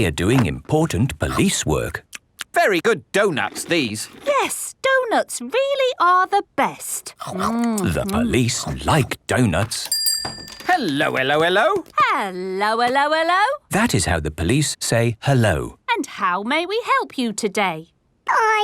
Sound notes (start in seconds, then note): 2.8 munching; 9.9 bell rings